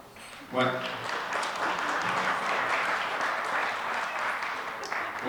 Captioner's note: audience applause